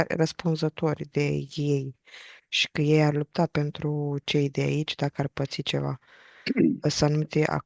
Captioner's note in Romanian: voce dreasă